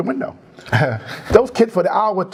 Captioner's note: laugh